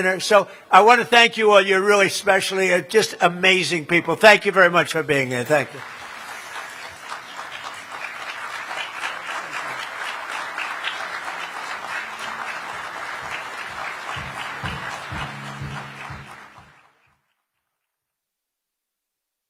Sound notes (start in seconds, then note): 7.5 applause